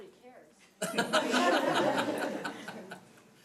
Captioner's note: laughing